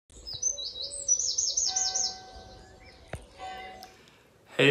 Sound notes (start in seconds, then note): 0.1 birds chirping; 1.7 bell tolling